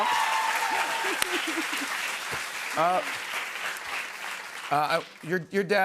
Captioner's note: cheers and applause